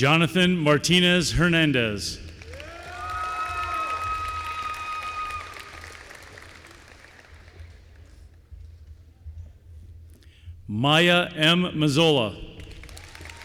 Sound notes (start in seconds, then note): 2.2 applause